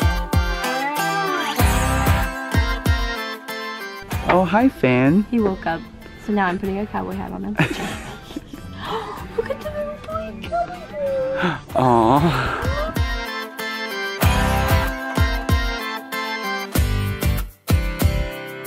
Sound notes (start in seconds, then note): 11.0 sighs; 13.2 upbeat country music